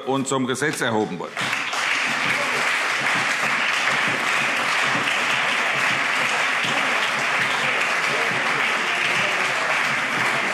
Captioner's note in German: Anhaltender Beifall CDU und BÜNDNIS 90/DIE GRÜNEN